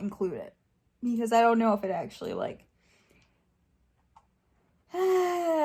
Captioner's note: sighs